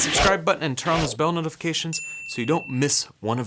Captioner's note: air whooshes; bell dings